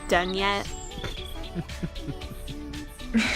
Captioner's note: Kyo laughing